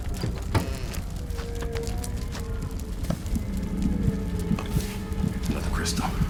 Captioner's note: door creaks